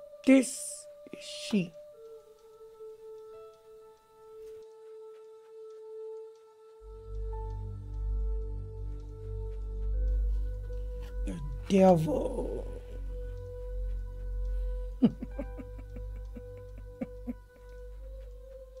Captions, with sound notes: This is she. The devil. (psychic chuckling)